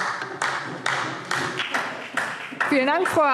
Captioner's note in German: Beifall DIE LINKE